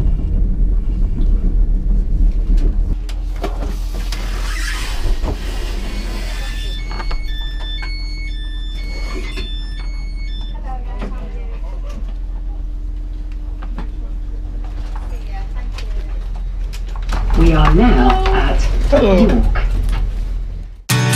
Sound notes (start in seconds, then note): 5.7 door opening chime